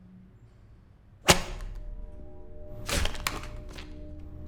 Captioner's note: paper cracks